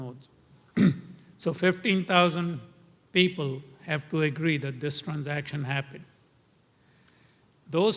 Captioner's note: cough